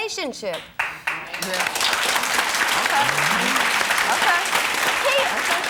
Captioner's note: audience applause